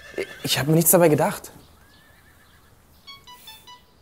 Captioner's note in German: Handy klingelt